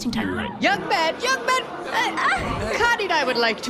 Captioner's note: calling out; squeals